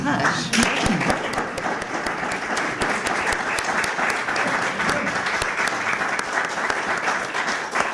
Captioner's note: clapping